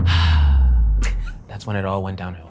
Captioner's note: sighs; laughs